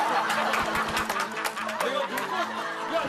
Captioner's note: applause mingled with laughter